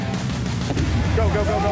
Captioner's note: gunshot